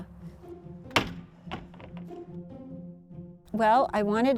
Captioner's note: door bangs